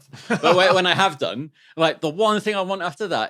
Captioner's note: laughs